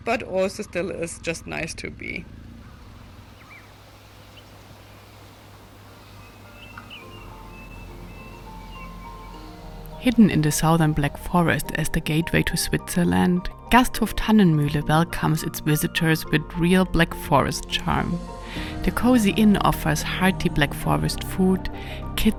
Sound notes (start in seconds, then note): 3.5 birds chirping; 6.4 gentle music